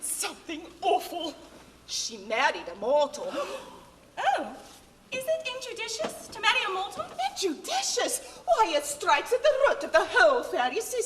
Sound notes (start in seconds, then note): 3.3 fairies gasp